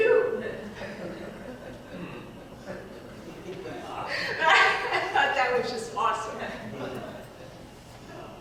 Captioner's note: laughs